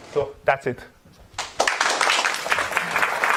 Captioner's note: applause